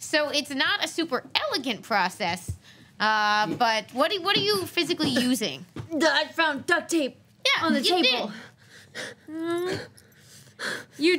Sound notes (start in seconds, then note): none